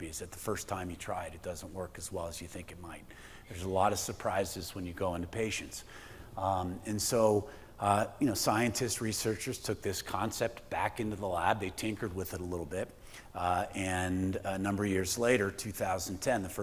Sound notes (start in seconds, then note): none